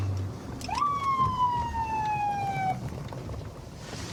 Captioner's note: sirens blaring